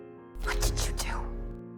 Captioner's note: whispering